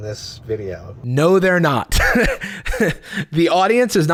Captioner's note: laughs